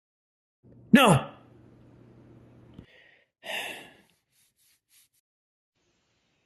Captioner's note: sighs